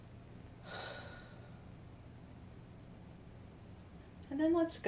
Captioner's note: deeply exhales